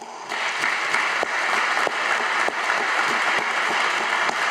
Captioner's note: audience applauding